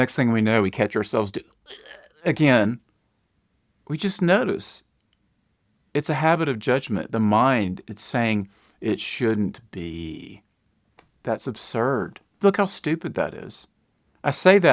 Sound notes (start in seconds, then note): 1.4 mimics choking